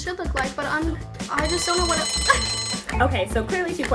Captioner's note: bell dinging